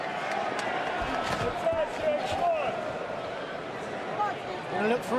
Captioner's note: crowd chatter